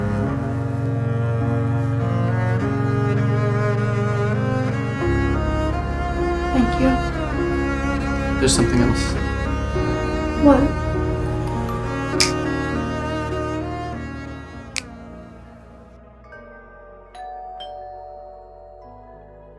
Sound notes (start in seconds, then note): 12.2 fingers snap; 14.7 fingers snap; 17.2 doorbell